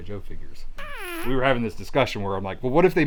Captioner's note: blows raspberry